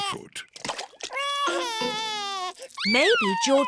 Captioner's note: cries